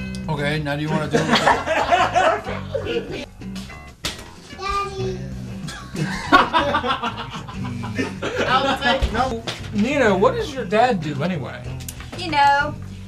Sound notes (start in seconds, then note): 1.0 laugh; 5.6 laugh